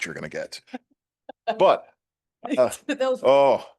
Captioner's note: laughter